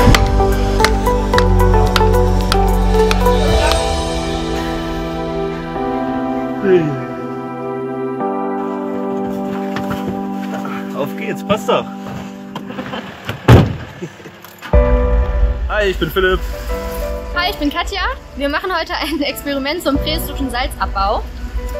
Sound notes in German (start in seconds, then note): 0.1 Schlaggeräusche; 6.5 gähnen; 12.6 Lachen, Autotür schlägt